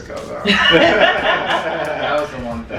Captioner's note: laughter